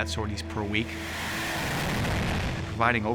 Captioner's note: plane taking off